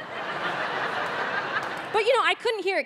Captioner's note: audience laughing